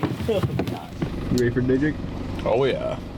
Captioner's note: car motor purring